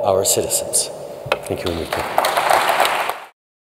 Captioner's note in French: Applaudissements